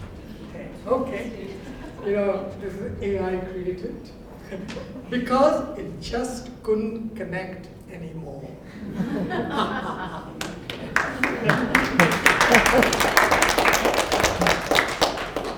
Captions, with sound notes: Okay, you know, AI created it because it just couldn't connect anymore. [LAUGHTER] [APPLAUSE]